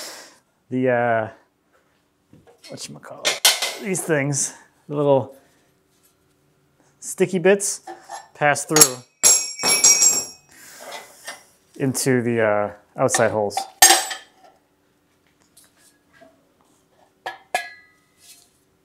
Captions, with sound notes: These things, the little sticky bits pass through. (object clangs) Into the outside holes.